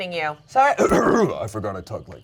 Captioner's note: clears throat